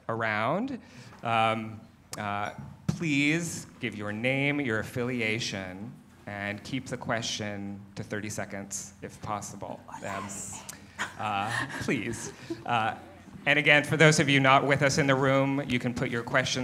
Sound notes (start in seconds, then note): 9.7 whispers